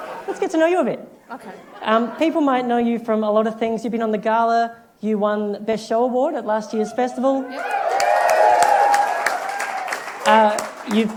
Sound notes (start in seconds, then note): 7.5 applause